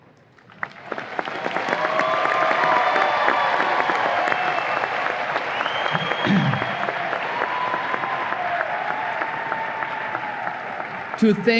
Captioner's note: audience applause and cheers